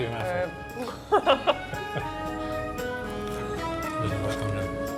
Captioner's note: both laugh